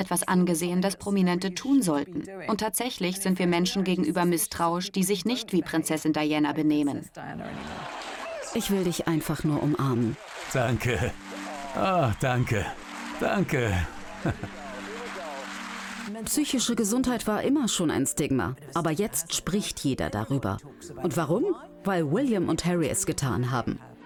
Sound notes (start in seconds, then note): 7.5 crowd applauds